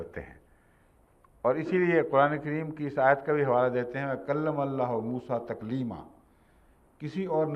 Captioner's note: Arabic